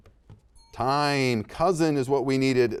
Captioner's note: bell rings